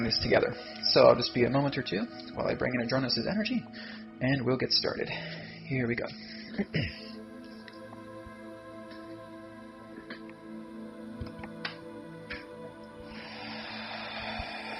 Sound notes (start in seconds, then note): 6.3 deep Breathing